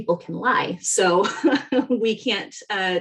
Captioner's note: laughing